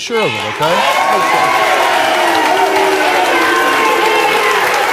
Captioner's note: audience clapping